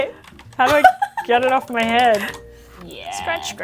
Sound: laughs

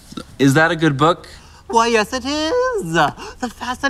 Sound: creepy voice

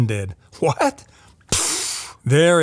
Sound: imitates explosion

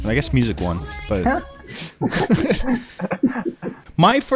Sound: laughter

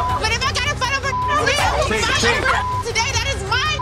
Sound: indistinct chatter

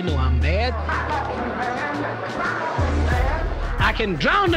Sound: crowd chattering

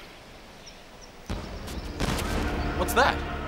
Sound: firecrackers banging

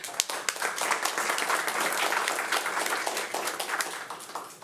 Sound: audience applauding

